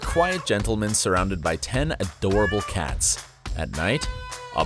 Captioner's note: meowing